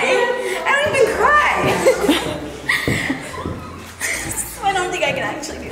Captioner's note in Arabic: تضحك وتنهد